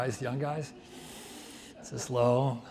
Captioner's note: winces